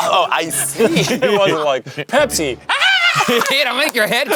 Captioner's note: screams; clapping